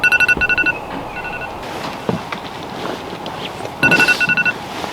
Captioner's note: phone alarm sounding